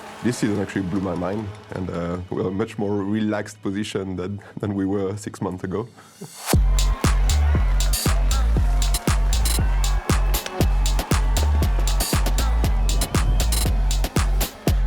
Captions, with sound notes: This actually blew my mind and we are much more relaxed position than we were six months ago. [CROWD CHEERING] [UPBEAT MUSIC PLAYING]